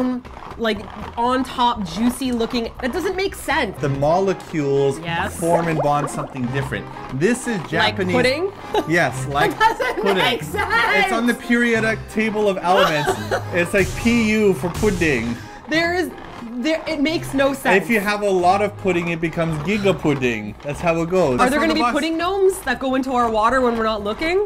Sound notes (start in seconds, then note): 5.0 bubbling chemical sounds